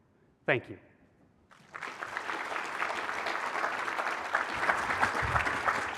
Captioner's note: applause